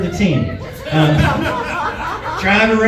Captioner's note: laughs